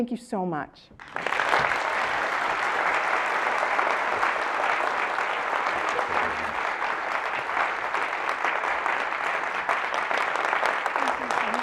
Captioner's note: applause